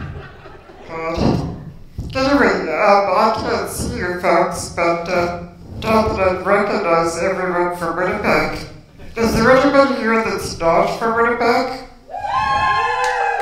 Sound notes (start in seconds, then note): 12.0 cheers